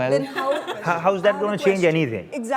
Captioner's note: laughs